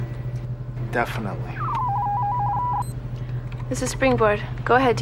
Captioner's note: electronic noises